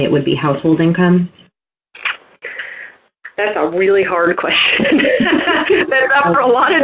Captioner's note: laughter